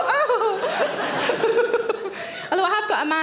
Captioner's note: Sarah laughs